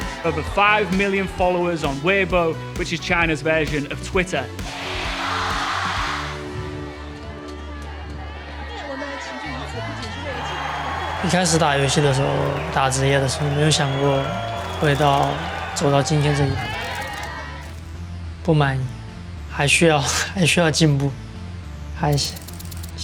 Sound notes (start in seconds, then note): 4.6 crowd chanting; 8.7 indistinct chatter